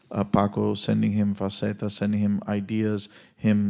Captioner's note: speaks Spanish